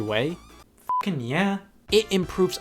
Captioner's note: beep